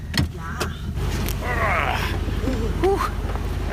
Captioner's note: grunts